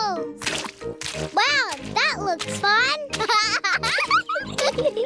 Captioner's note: laughs